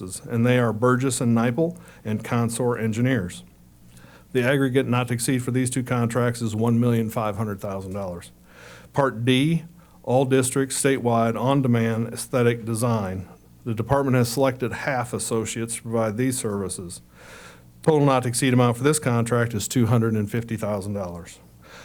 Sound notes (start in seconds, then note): none